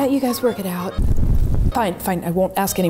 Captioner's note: fire blazes